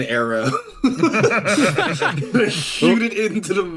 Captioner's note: laughs